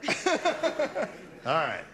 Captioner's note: laughing